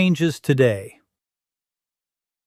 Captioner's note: pause